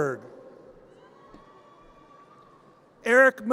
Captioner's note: audience cheers